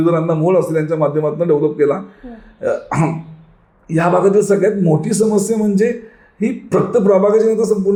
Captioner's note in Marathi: घसा साफ करणे